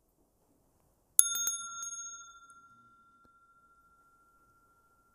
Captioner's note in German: Mooji klingelt das Glöckchen